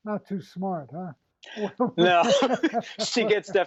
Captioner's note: laughs